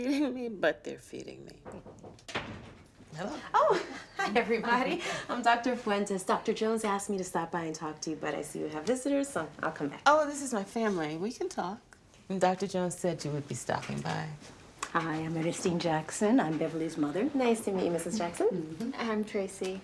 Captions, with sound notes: but they're feeding me. (muffled knocking) - Hello. - Oh, hi, everybody! I'm Dr. Fuentes. Dr. Jones asked me to stop by and talk to you, but I see you have visitors, so I'll come back. Oh, this is my family. We can talk. Dr. Jones said you would be stopping by. - Hi, I'm Ernestine Jackson. I'm Beverly's mother. - Nice to meet you, Mrs. Jackson. - I'm Tracy.